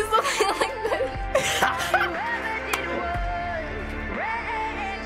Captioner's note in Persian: خندیدن پسر